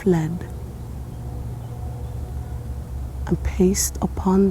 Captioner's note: birds chirping